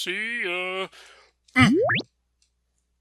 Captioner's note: bwip!